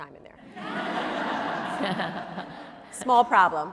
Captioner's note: audience laughing